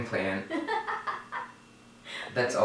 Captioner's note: laughing loudly